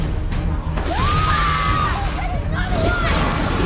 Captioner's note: screaming